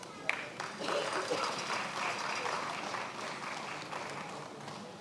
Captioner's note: attendees applauding